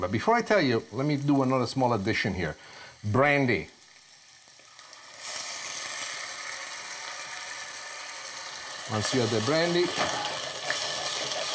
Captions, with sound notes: but before I tell you, let me do another small edition here. Brandy. (sizzling) Once we add the brandy.